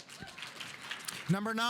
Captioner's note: audience applauding